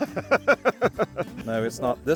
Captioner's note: laughing